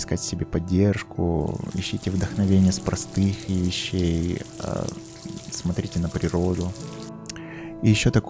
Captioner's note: raindrops hit water